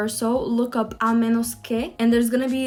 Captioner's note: speaks in foreign language